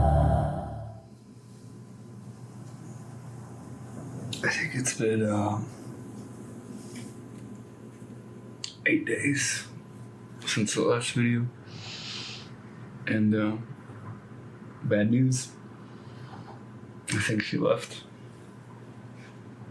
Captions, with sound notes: (air conditioner whirring) - I think it's been eight days since the last video, and bad news. I think she left.